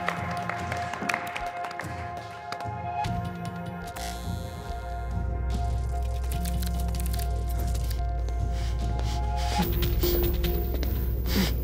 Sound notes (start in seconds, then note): 0.0 applause; 4.5 zaps; 6.0 clicking; 8.0 labored breathing